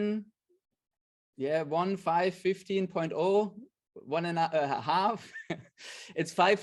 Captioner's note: chuckles